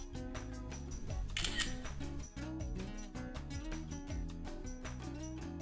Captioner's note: camera shutter clicks